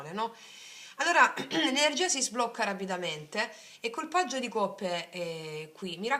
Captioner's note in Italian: schiarire la voce